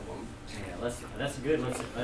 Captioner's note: voiceover